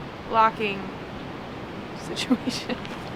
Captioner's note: laughs